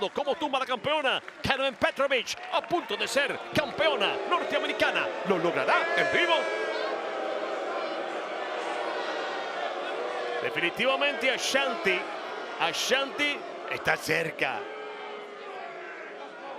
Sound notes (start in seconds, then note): 8.1 applause